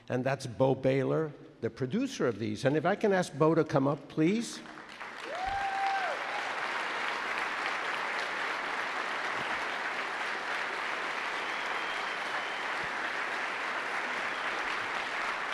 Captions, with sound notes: and that's Bo Baylor, the producer of these, and if I can ask Bo to come up, please? (audience cheers and claps)